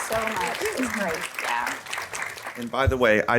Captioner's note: audience clapping